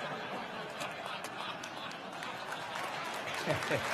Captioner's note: crowd laughing